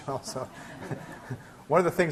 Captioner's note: class laughing